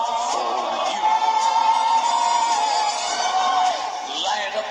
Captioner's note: none